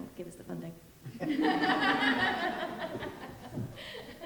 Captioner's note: group laughing